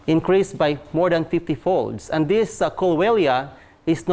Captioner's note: none